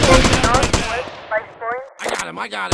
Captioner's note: gunshots